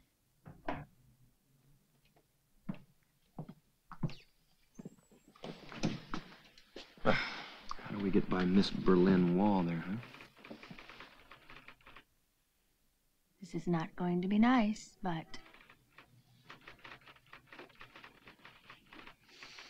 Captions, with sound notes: - How do we get by Miss Berlin Wall there, huh? (softly typing) - This is not going to be nice, but. (softly typing)